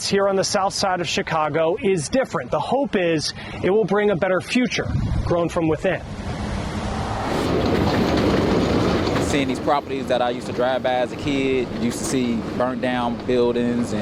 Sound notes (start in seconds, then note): 6.0 air whooshing; 7.4 train whizzing